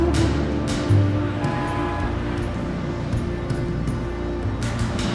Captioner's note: mysterious music continues; traffic rumbles; car horns blaring